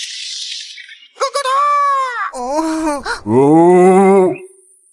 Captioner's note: gurgle, groan, oh oh